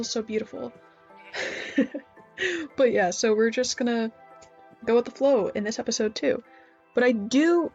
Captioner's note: chuckles to self